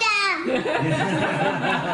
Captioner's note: laughter